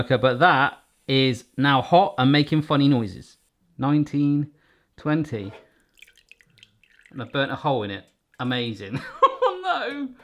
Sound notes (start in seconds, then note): 9.1 laughs